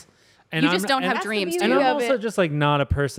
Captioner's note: none